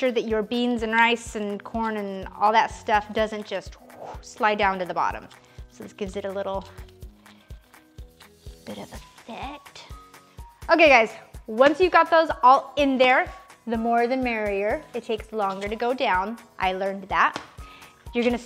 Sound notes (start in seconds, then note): 3.9 breathing out